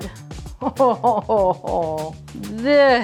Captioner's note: laughing